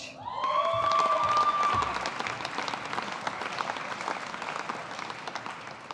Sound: audience applauding

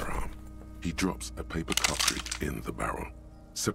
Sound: gun loading

